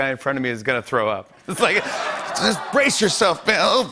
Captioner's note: laughter